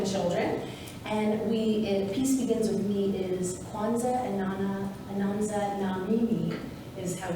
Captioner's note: speaking in Swahili